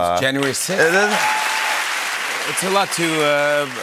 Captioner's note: cheers and applause